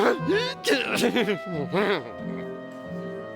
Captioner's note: laughing